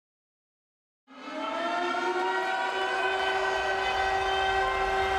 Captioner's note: alarms blaring